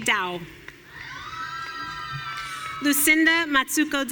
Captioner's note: audience cheering